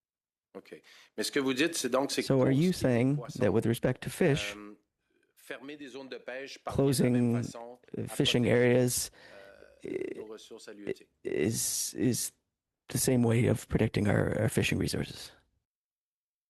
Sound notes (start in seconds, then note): 7.3 speaking French